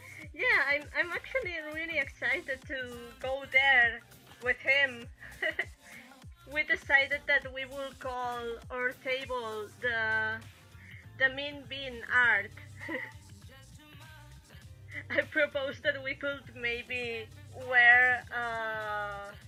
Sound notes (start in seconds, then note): 5.2 chuckle; 12.5 chuckle